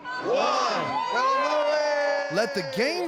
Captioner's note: everyone cheering